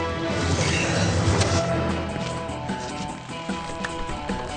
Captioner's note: Billy grunting